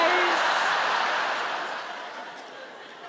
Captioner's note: audience laughs